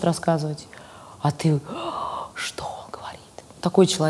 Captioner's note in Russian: восторженно вдыхает, шепчет